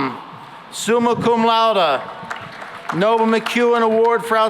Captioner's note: applause